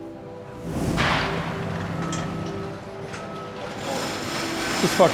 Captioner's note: machines whirring